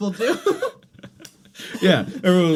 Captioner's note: both laugh